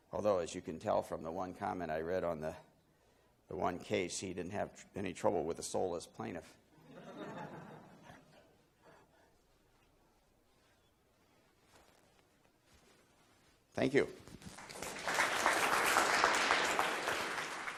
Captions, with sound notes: Although as you can tell from the one comment I read on the one case, he didn't have any trouble with a soulless plaintiff. (laughing) Thank you. (applauding)